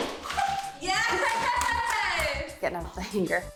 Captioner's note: laughs